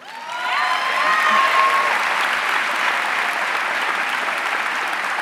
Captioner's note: audience cheering and applauding